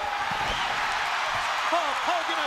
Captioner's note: crowd cheering